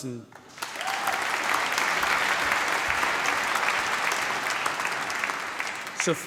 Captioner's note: cheering, applause